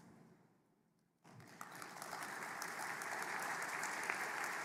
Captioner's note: applause